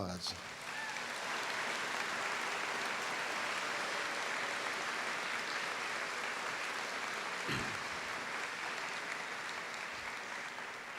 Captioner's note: applause